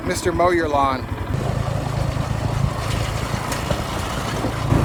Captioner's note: engine rumbling